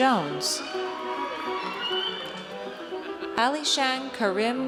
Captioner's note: audience cheers